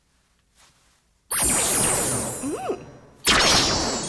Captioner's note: zaps